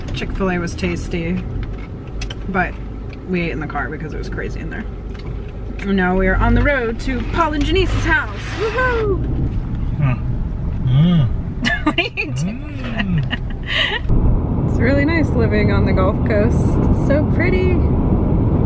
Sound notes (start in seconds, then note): 11.6 laughing